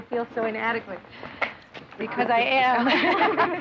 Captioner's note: laughing